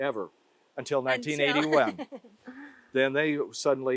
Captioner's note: laughs